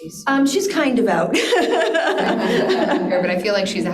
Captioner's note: laughs